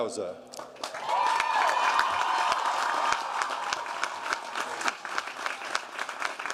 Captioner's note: audience cheering and applauding